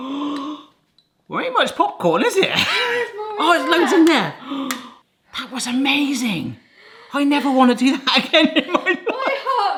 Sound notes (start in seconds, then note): 0.0 gasps; 4.3 gasps